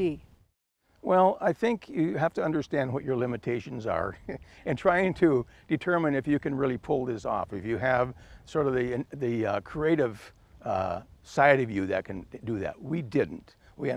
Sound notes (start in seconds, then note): 3.9 chuckles